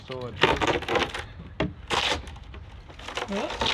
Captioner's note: wood creaking